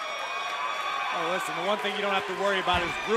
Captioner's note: crowd cheering